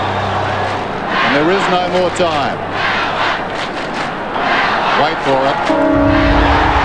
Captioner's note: crowd roars